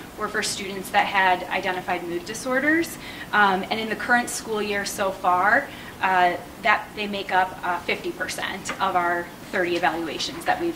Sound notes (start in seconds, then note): none